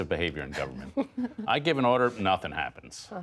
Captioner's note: laughter